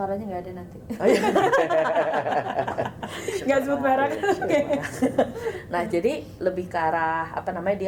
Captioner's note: laughs